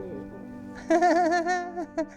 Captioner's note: laughs